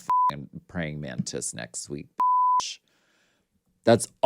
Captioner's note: beep; beep